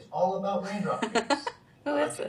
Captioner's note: laughs